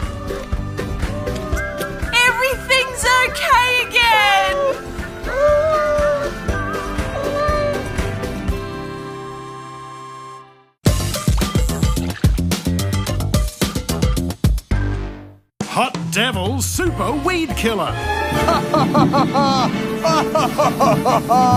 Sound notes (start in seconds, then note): 4.0 cats meow; 18.4 laughs